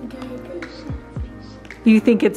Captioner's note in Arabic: طفل يثرثر